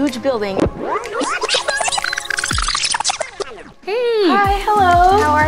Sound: tape rewinding

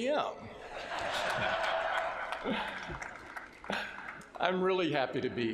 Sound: laughter

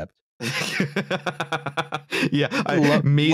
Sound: laughs

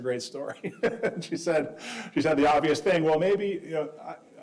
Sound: chuckling

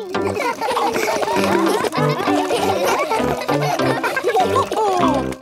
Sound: all laugh

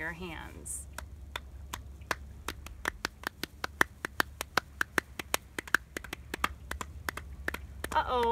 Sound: soft clapping sounds

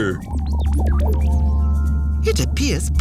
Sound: low frequency noise

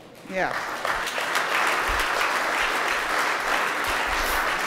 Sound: audience applauding

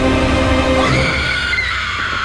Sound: screams

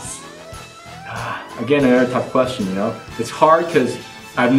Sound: sighing

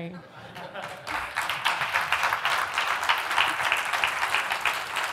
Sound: audience laughs and applauds

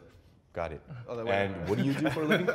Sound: laughs

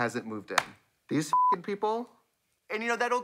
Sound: beep

